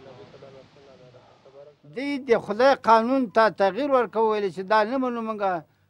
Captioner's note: speaking Afghan